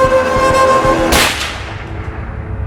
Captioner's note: shot